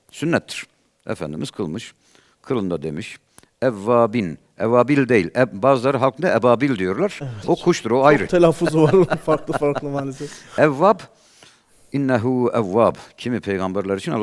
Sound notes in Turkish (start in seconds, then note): 8.0 kahkaha